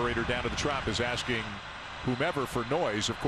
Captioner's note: applause